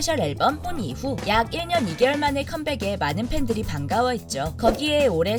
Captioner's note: horn